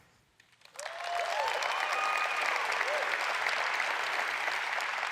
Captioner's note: audience applauds